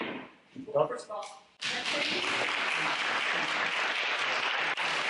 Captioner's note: applause